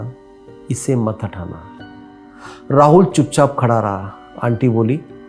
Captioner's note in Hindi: नाक से की जाने वाली आवाज़